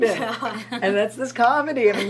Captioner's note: laughs